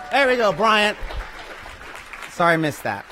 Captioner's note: applause